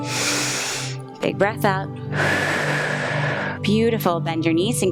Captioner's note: inhales; exhales